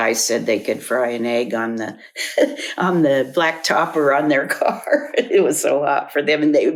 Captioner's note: laughs